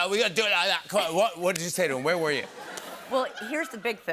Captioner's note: normal voice